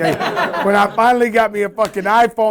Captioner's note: laughter